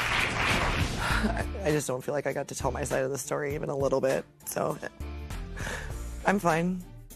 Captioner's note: applause; sighs